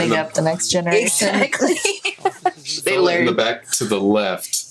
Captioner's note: laughs